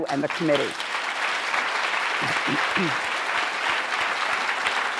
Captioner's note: applause